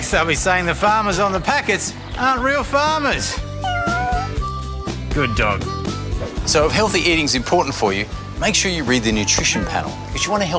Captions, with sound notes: Next they'll be saying the farmers on the packets aren't real farmers. (Cat meows) Good dog. So if healthy eating's important for you, make sure you read the nutrition panel